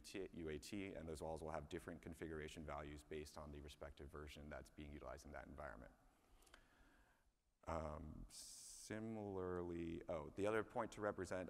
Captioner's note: speaking away from microphone